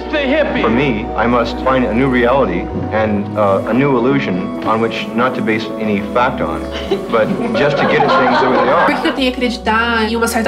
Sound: laughs

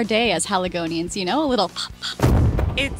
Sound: pop pop

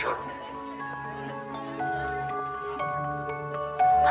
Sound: indistinct chatter

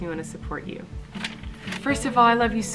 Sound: paper rustling

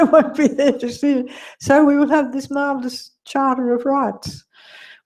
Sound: laugh

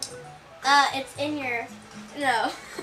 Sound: laughs

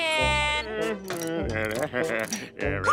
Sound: grunting

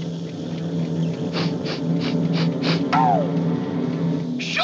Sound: sniffing

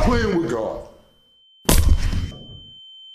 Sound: ears ringing

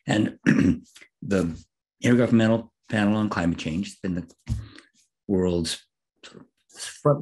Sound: cough

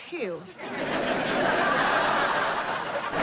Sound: laughing

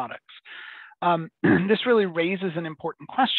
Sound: clears throat

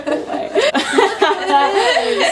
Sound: laughing

